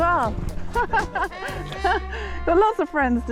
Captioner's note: laughing